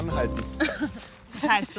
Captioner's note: laughs